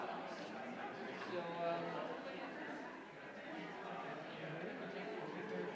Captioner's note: indistinguishable chatter